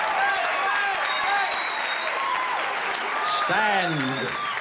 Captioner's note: cheering